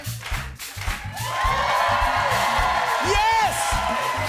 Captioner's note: cheers and applause